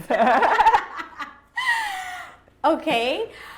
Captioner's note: laughing